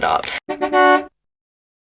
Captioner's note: honks